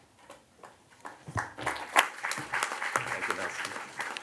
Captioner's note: audience applauds